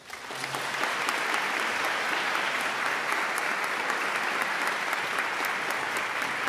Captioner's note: audience claps